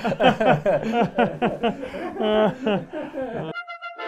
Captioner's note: sobbing